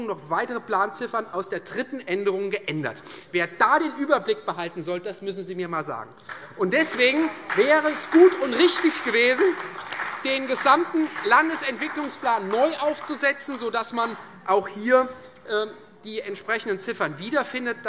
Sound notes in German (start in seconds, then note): 5.8 Beifall Freie Demokraten und SPD